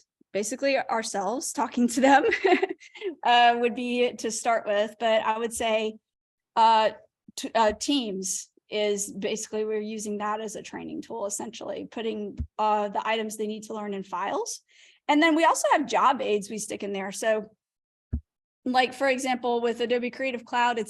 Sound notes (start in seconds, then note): 2.0 laughter